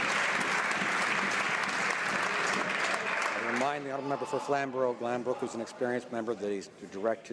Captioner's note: some Applause